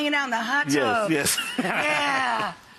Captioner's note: laughing